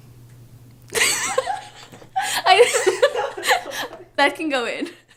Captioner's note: laughing